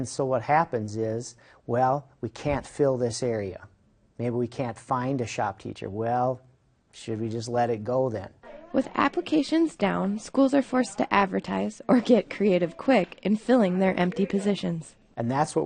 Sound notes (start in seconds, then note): 8.9 voiceover